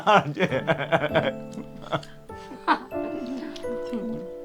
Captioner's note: both laughing